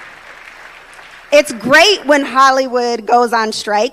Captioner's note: applause